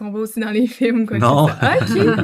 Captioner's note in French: Rires